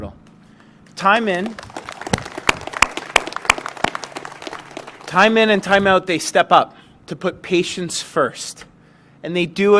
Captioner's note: applause